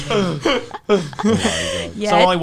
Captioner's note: laughs